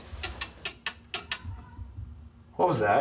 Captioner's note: ticking